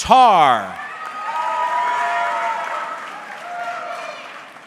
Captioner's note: audience cheering